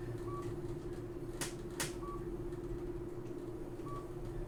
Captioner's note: elevator beeping